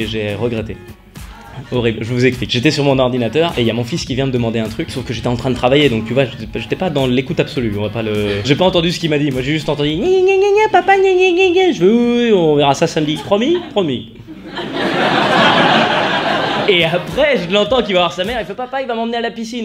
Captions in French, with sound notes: J'ai... Regretté. Horrible. Je vous explique. J'étais sur mon ordinateur et y'a mon fils qui vient me demander un truc. Sauf que j'étais en train de travailler. Donc tu vois j'étais pas dans l'écoute absolue ; on va pas le... J'ai pas entendu ce qu'il m'a dit, moi j'ai juste entendu : *voix d'enfant* "gnagnagna papa gnagnagna" J'ai fait "Oui oui oui, on verra ça samedi." "Promis ? - Promis." *rires* Et après je l'entends qui va voir sa mère, il fait "Papa il va m'emmener à la piscine !"